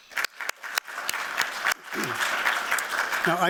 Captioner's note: applause